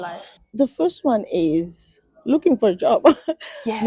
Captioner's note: laughs